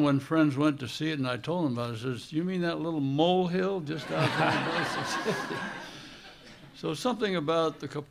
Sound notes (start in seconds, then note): 4.0 laughter